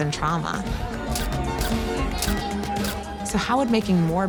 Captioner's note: camera clicking